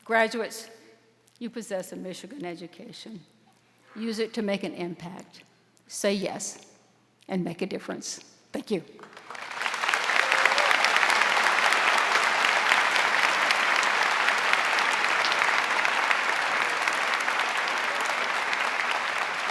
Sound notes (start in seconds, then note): 9.8 audience applauding